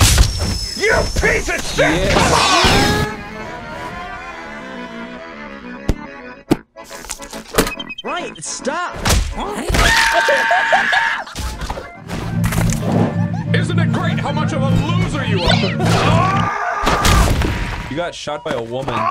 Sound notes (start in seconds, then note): 4.5 screeching like a banshee; 10.0 laughing, cackling if you will. He's such a riot